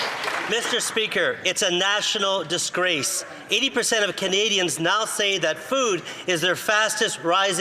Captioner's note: some Applause